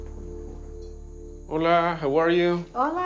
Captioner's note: speaking Spanish